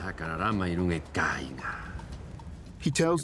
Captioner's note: speaking Rapanui